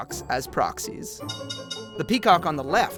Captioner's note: bell ringing